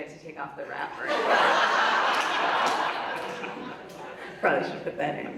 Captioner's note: audience laughs